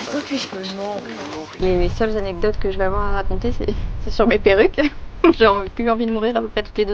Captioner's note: laugh